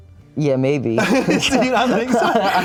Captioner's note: laughs